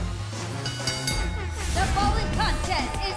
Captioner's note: bell ringing